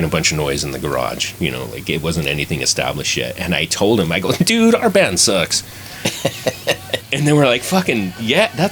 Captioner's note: laughter